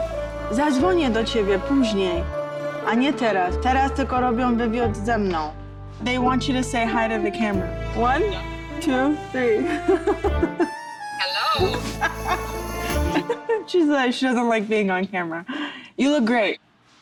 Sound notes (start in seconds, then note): 11.2 laughing; 11.2 giggling